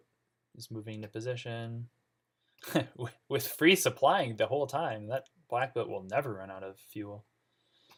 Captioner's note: laughs